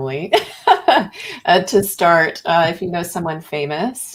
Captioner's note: laughs